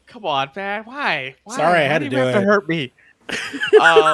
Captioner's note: laughs